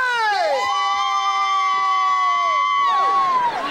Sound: cheering

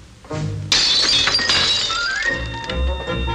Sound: sound of glassware breaking

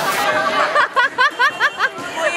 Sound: laughing

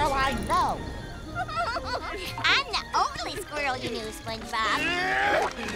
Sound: chuckles; grunting

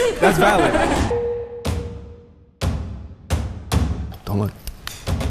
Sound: bell dings

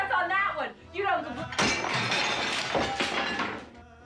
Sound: crash

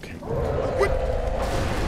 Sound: roars and crashing rock

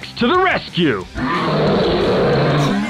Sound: roaring

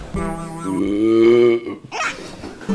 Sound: burping ASMR

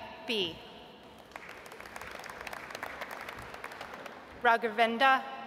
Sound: audience applauds

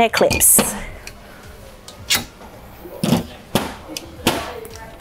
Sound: camp table legs squeak

